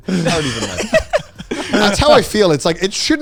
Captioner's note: both laughing